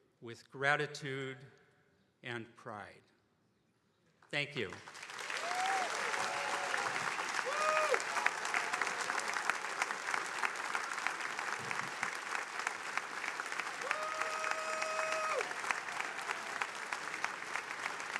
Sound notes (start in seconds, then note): 5.0 attendees cheering and applauding; 14.9 attendees applauding